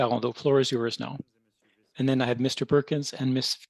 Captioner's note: speaking French